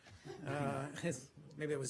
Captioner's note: laughter